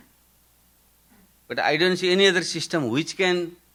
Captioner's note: none